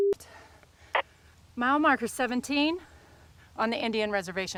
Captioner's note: static buzzing